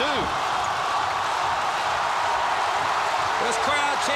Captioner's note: crowd cheering